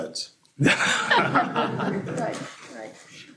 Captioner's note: laughter